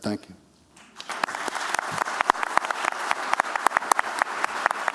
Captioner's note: applause